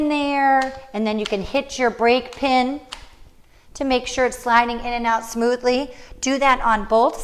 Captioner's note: click noise